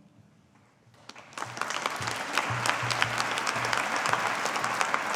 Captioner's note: audience applauding